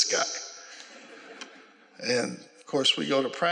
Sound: laughter

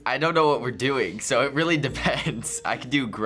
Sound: laughs

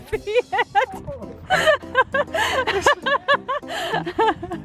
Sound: laughing

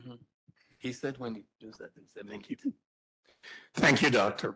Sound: faintly speaking

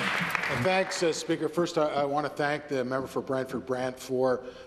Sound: some Applause

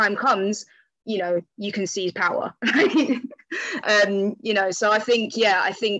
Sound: laughs

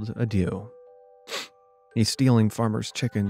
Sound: narrator sniffs

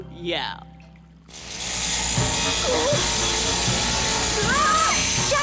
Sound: motor whirring

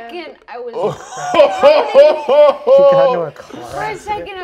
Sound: players laughing

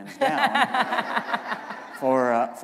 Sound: laughter

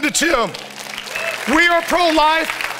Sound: congregation applauds

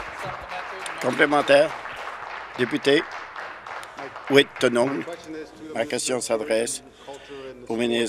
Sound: applause

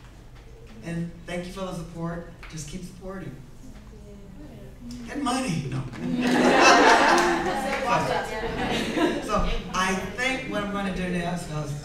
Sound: everyone laughs

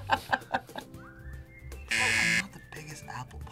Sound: laughs; buzzer

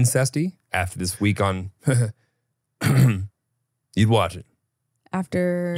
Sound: clears throat

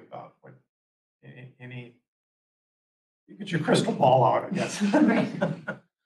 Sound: laughter

